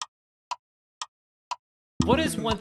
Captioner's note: clock Ticking